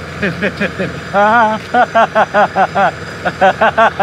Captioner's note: laughing